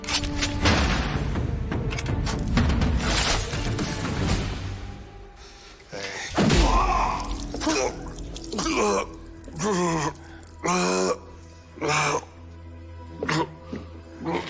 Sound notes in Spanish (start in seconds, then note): 6.5 Grito; 8.2 Quejidos